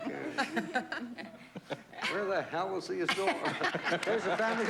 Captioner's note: normal voice